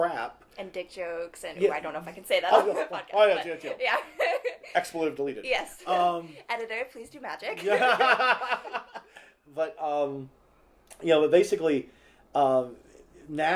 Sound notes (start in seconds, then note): 7.5 laughter